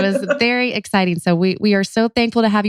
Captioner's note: laughs